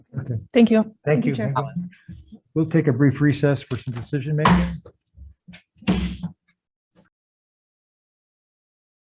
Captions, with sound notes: - Thank you. - Thank you everyone. We'll take a brief recess for some decision-making. (gavel bangs)